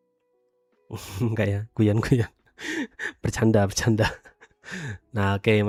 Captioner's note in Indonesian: tertawa